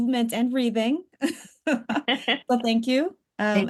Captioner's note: laughs